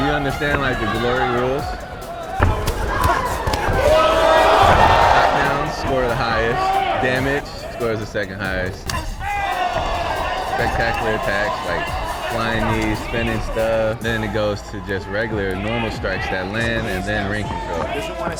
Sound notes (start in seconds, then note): 2.2 audience chattering; 2.2 punches thudding